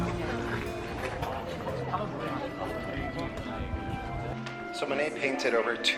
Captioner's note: quiet music continues; onlookers murmuring; quiet music continues